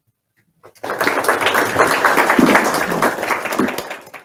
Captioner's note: audience clapping